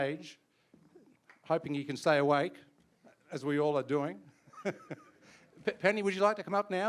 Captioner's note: chuckles